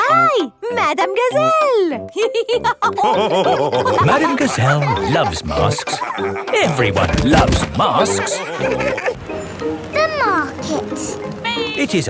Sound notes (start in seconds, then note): 2.2 all laughing